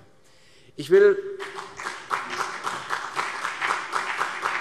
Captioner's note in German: Beifall CDU und BÜNDNIS 90/DIE GRÜNEN